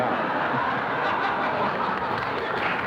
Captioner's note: laughter